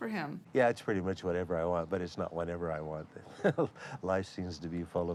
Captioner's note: chattering